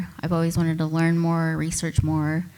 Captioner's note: none